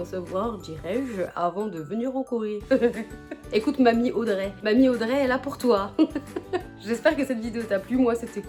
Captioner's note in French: rires